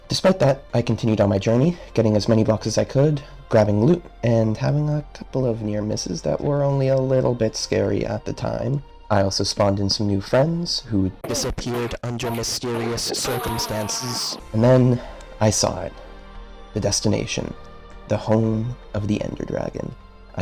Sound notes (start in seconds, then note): 11.2 Robotic voice; 14.4 normal voice